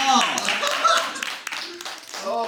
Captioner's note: hahaha!